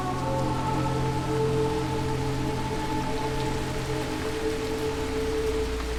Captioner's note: raining